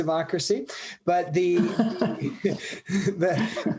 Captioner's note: laughs